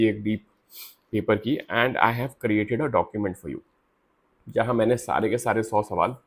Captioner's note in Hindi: नाक से की जाने वाली आवाज़